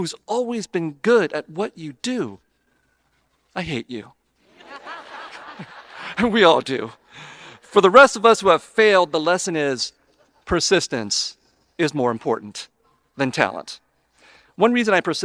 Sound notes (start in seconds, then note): 4.5 audience laughing